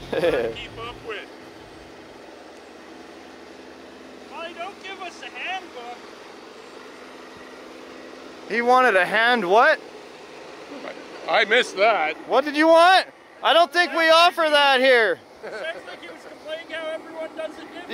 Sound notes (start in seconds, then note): 0.0 laughs; 5.3 murmurs